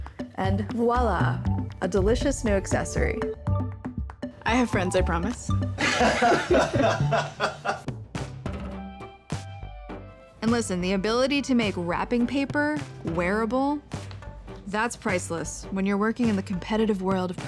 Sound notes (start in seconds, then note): 5.8 laughter